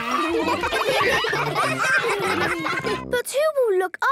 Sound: ruckus

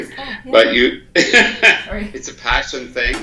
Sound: laughs

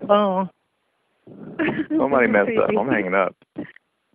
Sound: laughing

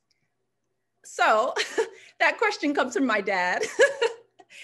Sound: laughing

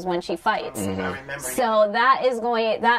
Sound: sounds of agreement

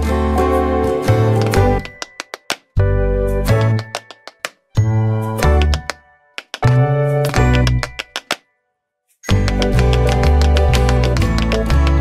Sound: tap dance

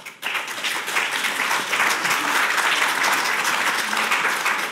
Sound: audience applauding

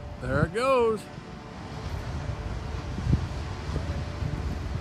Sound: gushing water sound

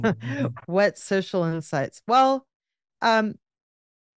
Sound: giggles

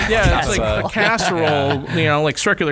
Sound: laughter

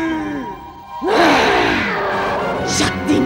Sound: grunts

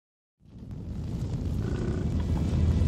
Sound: hoof beats; hoof beats, bison vocalizations, music

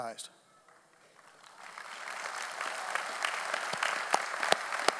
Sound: audience applauding

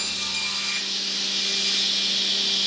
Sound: whirring

